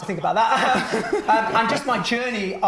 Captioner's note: all laughing